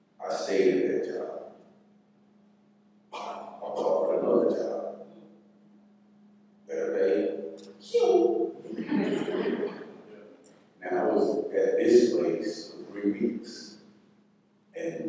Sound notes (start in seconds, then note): 8.7 laughter